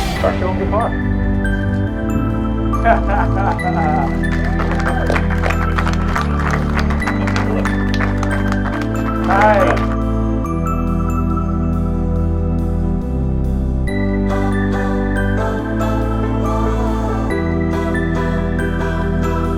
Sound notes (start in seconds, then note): 2.6 Alfred laughing; 5.1 crowd clapping; 15.6 loud inspirational music